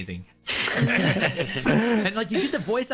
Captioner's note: all agreeing laughter